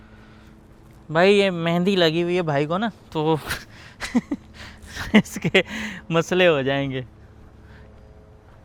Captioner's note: Laugh